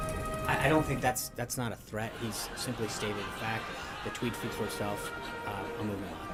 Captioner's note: raucous laugh track